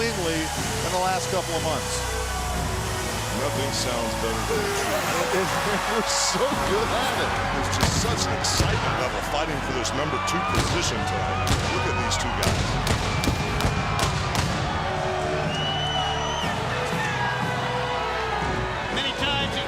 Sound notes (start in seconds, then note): 12.7 crowd cheering